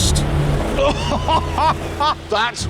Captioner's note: richard laughs